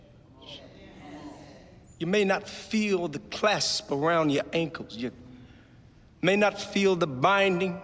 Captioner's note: crowd murmurs in agreement